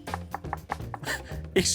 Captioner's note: knocking